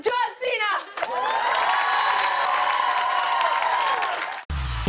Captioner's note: cheers and applause